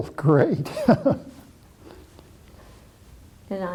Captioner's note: laughter